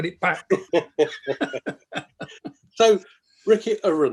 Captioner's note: both laughing